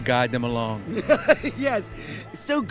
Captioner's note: laughs